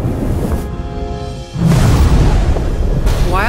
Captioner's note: thunder crashes